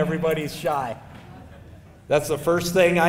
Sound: audience laughing

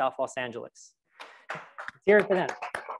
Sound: crowd applauds

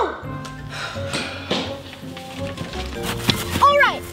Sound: both sigh

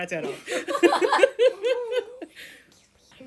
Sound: laughter

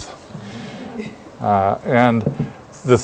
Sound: laugh

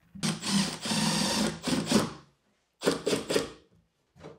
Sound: drill whirring

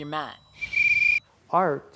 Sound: whistle blowing

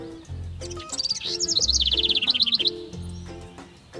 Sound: bird chirping

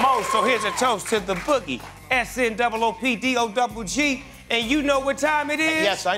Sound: cheers and applause

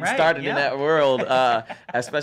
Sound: both laugh

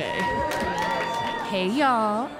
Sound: cheers

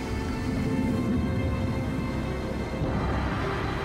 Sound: water burbling

